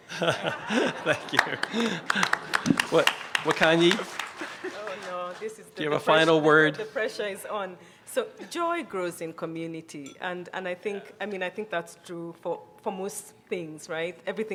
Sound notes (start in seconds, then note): 0.0 chuckles; 0.0 chuckling; 2.4 clapping